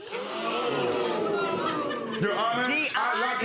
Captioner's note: audience members gasping